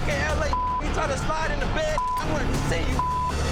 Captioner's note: beep